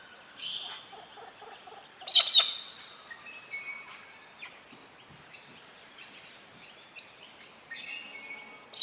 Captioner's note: birds sounds and chirps